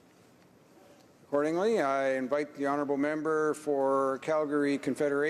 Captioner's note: speaking French